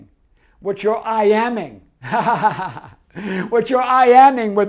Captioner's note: laughs